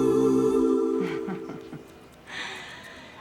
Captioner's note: chuckles